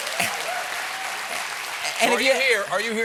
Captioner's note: cheers and applause